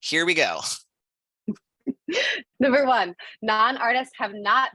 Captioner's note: laughter